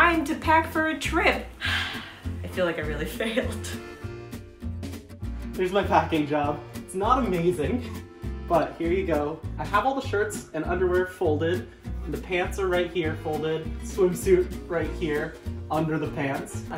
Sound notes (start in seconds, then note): 1.6 sigh